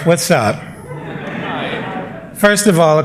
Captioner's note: laughter